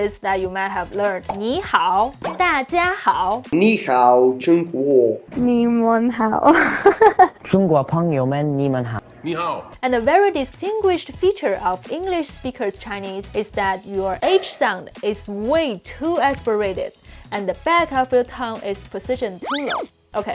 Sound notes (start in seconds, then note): 1.5 speaking in Mandarin; 3.8 man speaking in Mandarin; 5.5 speaking in Mandarin; 6.5 laughing; 7.6 speaking in Mandarin